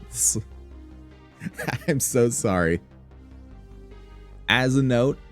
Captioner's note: chuckling